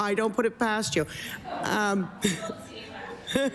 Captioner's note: laughter